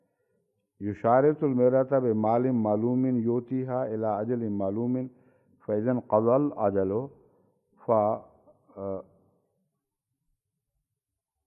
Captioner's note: Arabic